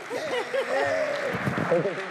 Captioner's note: applause